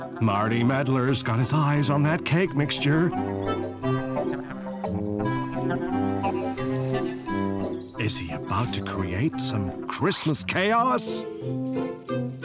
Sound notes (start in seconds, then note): 6.3 sniff!